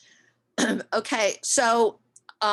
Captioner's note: clears throat